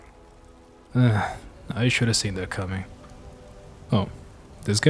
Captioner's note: sigh